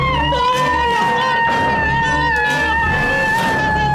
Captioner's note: screams